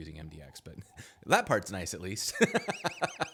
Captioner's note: laughs